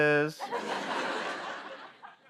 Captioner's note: laughter